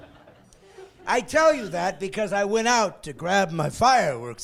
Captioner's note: laughing